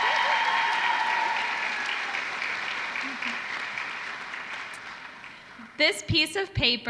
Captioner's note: applause